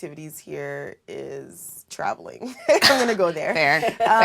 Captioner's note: laugh